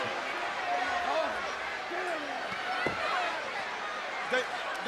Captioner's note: crowd clamors